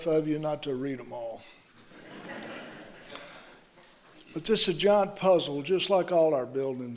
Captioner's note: laughter